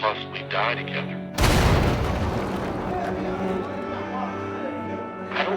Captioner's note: explosion blasts; people shouting